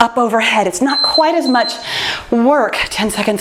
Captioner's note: timer beeps